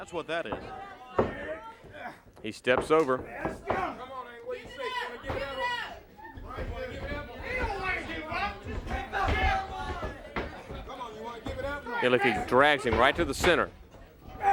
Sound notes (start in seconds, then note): 9.6 crowd chatter